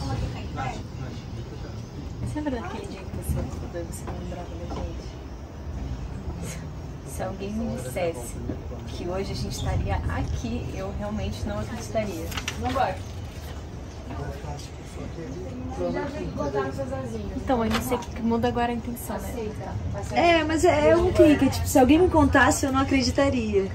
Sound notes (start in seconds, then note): 0.1 indistinct chatter in the background; 14.0 indistinct chatter in the background